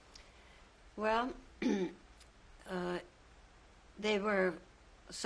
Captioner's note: pauses for 3 seconds